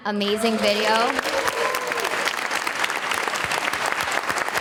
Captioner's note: audience applauding